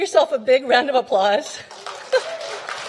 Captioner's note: applause